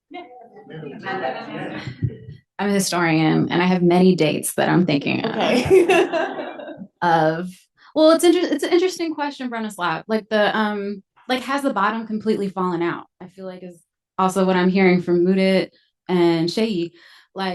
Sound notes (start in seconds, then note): 5.4 audience laughs